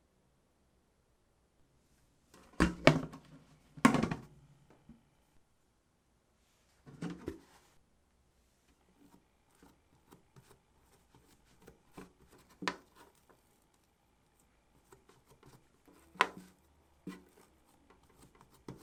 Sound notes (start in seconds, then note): 13.7 folding